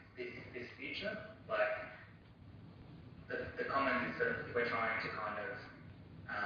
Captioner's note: audio distorts